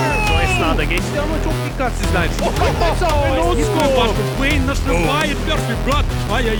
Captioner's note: foreign shoutcasters commentating